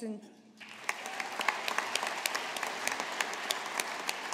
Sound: audience applauding

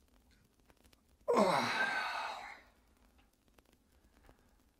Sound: Ezra sighs

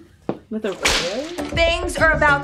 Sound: whipping sound

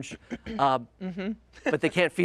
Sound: humming

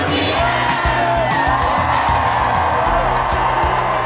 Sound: cheers

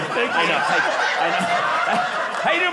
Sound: audience laughing

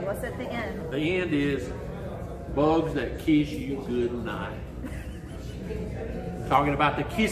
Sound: laughs

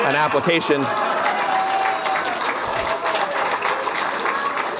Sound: cheering and applause

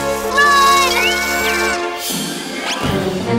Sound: screaming

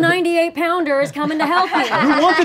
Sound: laughing

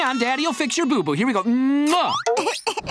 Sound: sobbing

